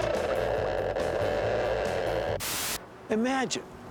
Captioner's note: <i> crackling</i>